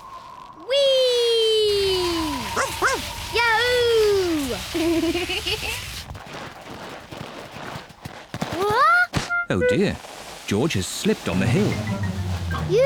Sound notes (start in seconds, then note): 0.7 wind whistling; 2.6 barks; 4.7 giggles